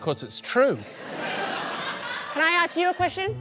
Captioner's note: laughter